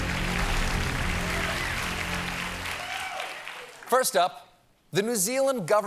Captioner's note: applause